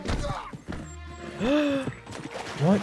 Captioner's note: gasps